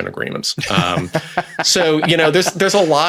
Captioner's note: laughs